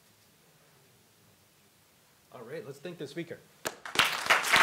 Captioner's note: applause